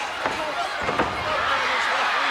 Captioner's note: body thuds; audience cheering